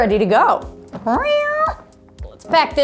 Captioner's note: loud meowing